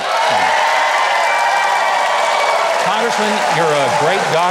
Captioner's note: audience applauding